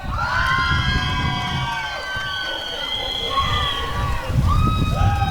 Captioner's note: applause and cheering